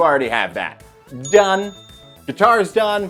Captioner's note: bell dings